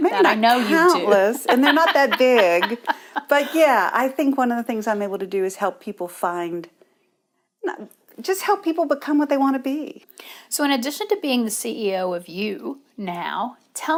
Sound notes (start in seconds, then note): 2.4 laughs